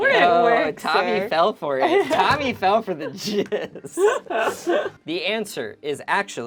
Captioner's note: overlapping chattering; laughs